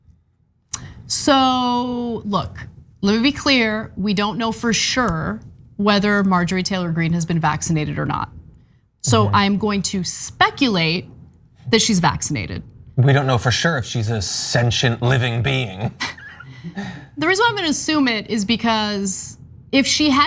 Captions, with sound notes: >> So look, let me be clear. We don't know for sure whether Marjorie Taylor Greene has been vaccinated or not, so I'm going to speculate that she's vaccinated. >> We don't know for sure if she's a sentient living being. >> [LAUGH] The reason I'm going to assume it is because if she hadn't